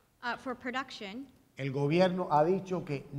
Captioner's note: speaking in Spanish